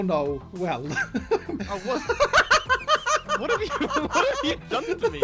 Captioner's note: laughter